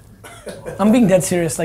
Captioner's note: laughing